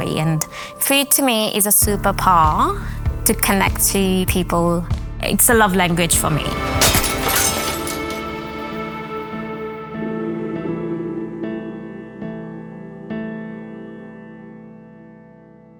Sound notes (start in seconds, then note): 6.6 glass breaking